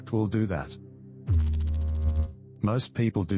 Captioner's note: electrical noise